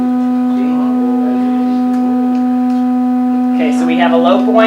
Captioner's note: low pitch humming